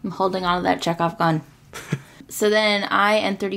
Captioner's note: laughs